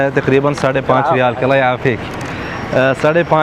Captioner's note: Arabic